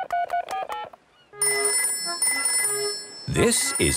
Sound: dial tone; phone rings

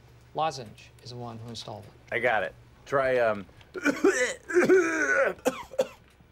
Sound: coughs

